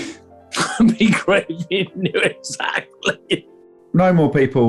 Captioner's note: laughing